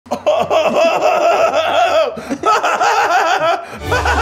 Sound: Keith laughing; bright music; Keith continues laughing

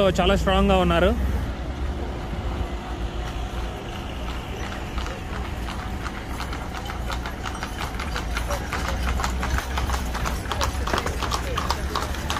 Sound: horses running

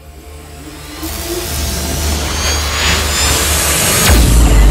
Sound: increasing intense buzzing

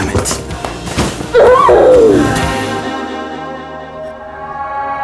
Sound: Gaby screams

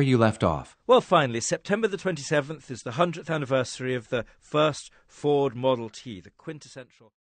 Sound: podcast voice

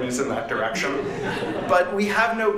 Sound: laughter

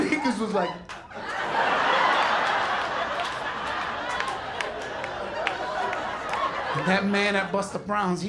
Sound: laughter

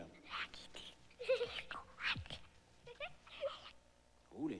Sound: children whispering and giggling

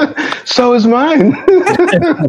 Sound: laughter

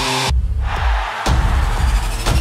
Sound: cheering

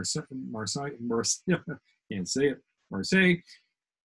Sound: laughs

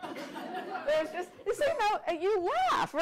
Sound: audience laughter

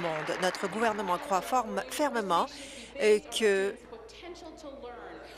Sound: applause

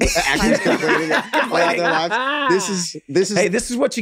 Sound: group laughs

